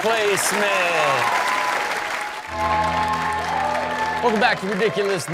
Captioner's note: audience cheers